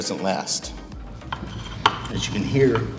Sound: faint metal grinding

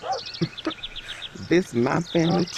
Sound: chuckles

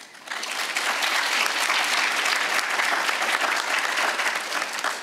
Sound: audience applauds

